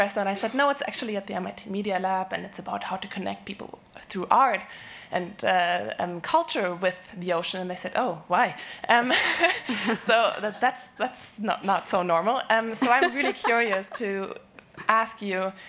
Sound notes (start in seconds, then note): 9.4 laughing; 12.7 laughing